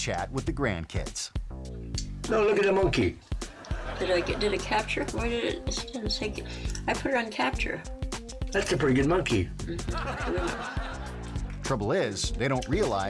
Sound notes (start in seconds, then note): 3.4 audience laughing; 9.8 audience laughing